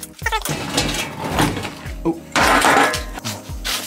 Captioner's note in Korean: 의자가 움직임